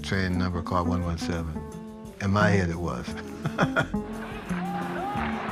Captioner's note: chuckling